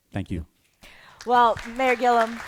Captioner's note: applause